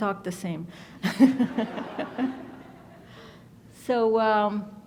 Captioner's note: laughs; audience laughs